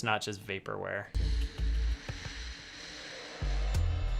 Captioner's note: air whooshing